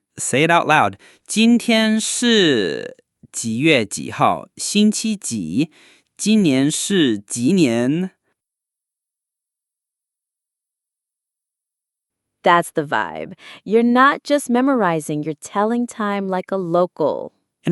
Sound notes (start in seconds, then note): 8.6 pause